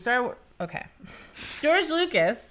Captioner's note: laughing